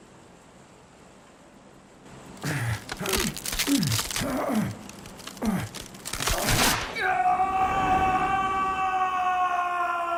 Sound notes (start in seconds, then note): 2.4 grunting; 6.3 screaming